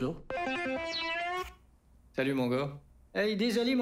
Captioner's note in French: Sonnerie de cellulaire